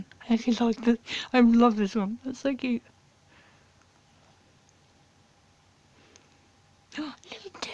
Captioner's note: gasp